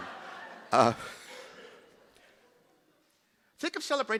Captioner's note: chuckling